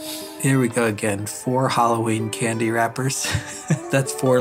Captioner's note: laughs